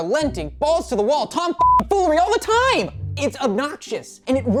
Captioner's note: beep